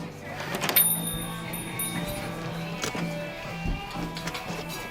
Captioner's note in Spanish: Timbre de la puerta tintineando